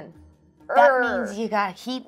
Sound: imitates roaring

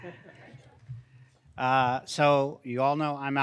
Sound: crowd chuckles

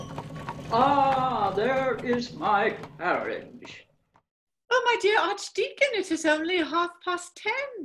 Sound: carriage approaches

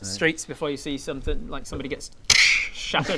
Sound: krrzztzh

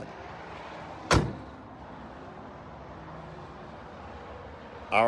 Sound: door thuds

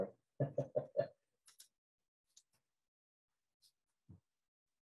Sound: laughing

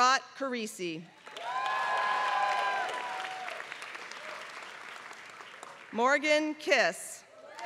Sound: applause

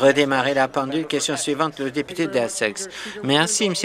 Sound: conversation din

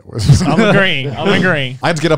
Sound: both chuckling

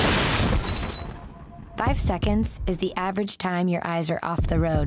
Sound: crash

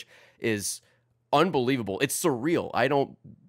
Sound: none

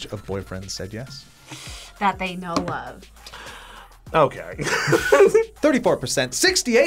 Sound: laughs

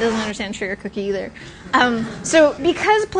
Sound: laughter

